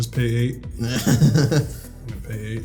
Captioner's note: laughing